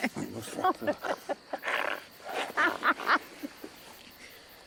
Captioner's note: Ara laughing